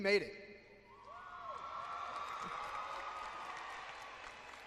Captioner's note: cheering